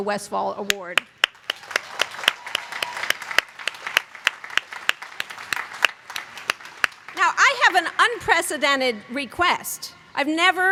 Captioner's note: applause